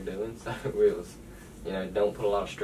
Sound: the man laughs

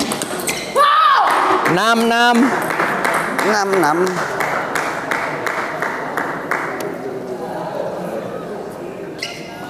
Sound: applause

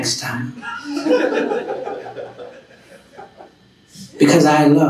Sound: laughing

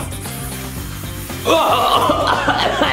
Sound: spray hissing; Mario coughing

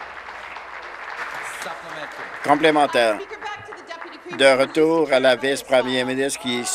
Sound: some Applause

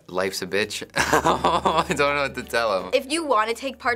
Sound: laughs

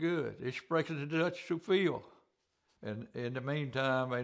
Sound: speaks German

